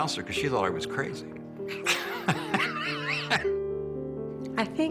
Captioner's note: laughs